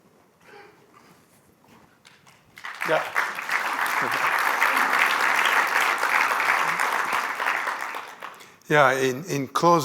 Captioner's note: applause